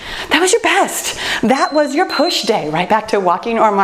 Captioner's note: timer beeps